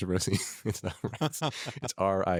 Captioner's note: both laugh